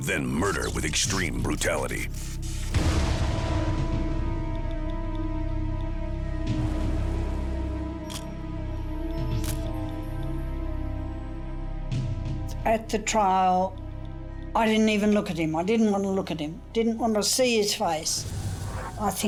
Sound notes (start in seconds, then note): 8.2 camera shutter click